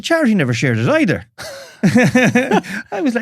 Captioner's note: laughs